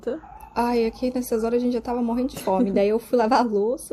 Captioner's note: laughs